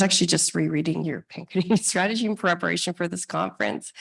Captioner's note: laughs